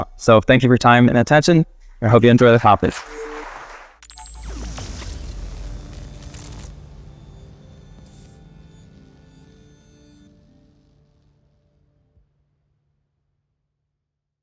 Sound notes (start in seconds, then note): 2.9 audience applauding; 2.9 graphic blipping